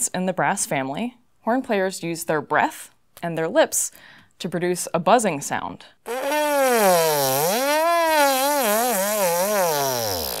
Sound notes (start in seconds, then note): 6.0 buzzing Sound